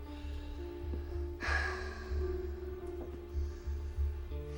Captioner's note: sighing